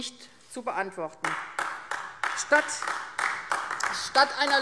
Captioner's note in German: Beifall AfD